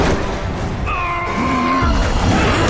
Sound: screams

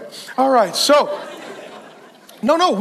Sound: congregation laughs

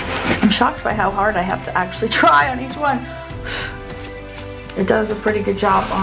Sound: blows

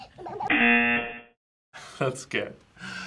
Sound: laughs; buzzer rings

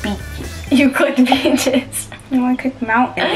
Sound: laughs

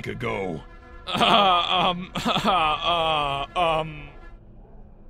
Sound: nervous laughter, stutters

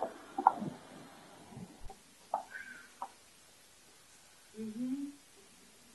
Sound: heels click on floor

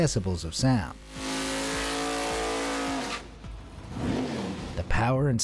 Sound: engine roaring

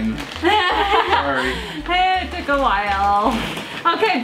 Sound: laughs

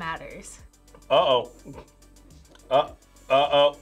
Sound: laughs

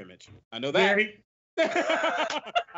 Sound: both laugh

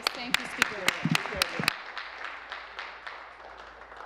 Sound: some Applause

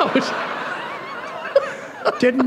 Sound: laughter

